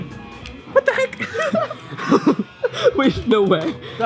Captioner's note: chuckles